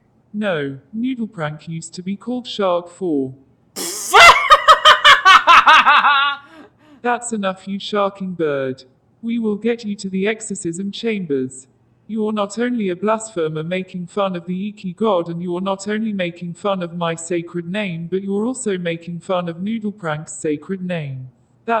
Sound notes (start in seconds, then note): 3.8 Pidgy laughing very hard